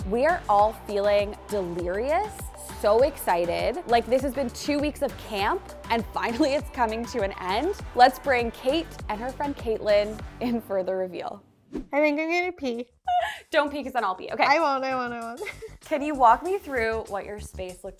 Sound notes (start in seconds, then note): 15.3 laughs